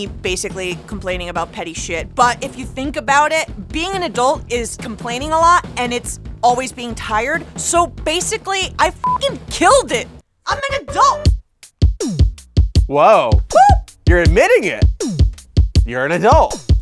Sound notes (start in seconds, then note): 9.0 beep; 10.5 upbeat music